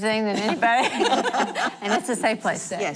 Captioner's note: laughing